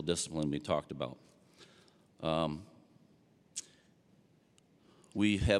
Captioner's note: none